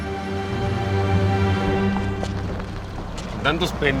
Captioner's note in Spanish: Ruido del vehículo